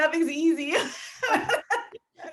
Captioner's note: laughing